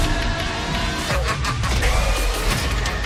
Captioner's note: maniacal laughter